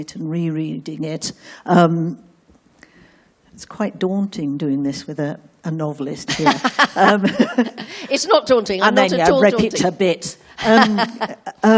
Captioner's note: Laughter from Kate Mosse